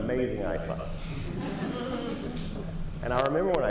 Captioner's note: laughter